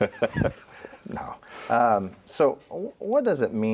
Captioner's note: laughs